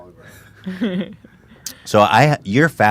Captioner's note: laughs